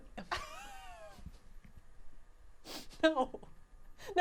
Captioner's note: laughing